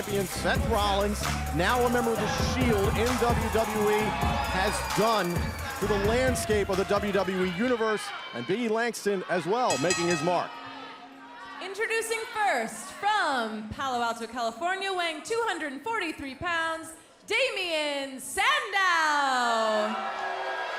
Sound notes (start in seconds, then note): 9.6 bell ringing; 19.1 crowd cheering